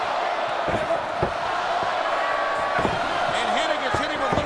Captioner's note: Hennig grunts